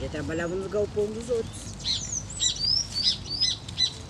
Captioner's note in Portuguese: pássaros cantam ao fundo